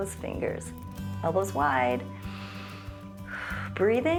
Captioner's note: inhales and exhales